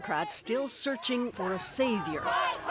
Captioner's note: chanting